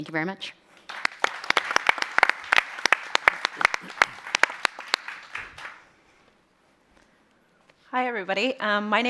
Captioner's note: applause